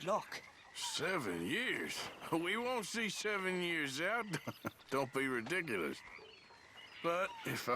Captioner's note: laughs